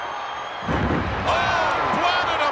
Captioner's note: wrestler thudding